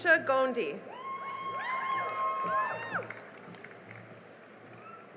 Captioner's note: cheering and applause